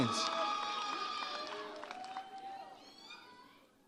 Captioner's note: audience cheers